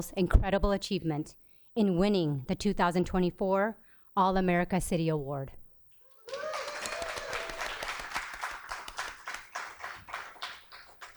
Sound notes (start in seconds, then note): 6.2 cheers and applause